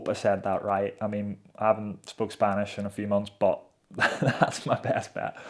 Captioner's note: laughs